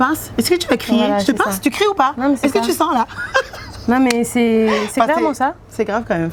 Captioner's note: laughs